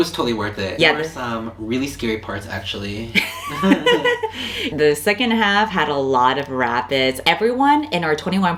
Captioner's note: laughs